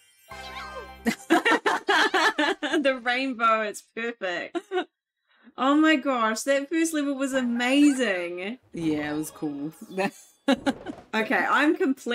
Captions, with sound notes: [both laugh] The rainbow. It's perfect. Oh my gosh, that first level was amazing. Yeah, it was cool. Okay, I'm completely hooked.